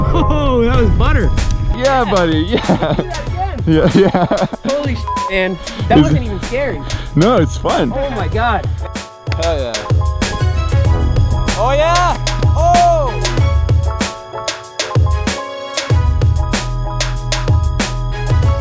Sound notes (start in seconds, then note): 3.6 laughs; 5.0 beep; 10.4 mellow techno music; 15.2 mellow techno music